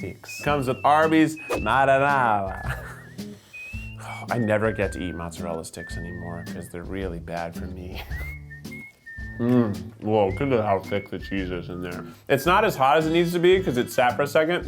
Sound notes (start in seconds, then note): 2.8 sniffing